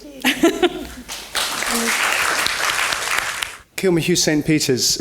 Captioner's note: applause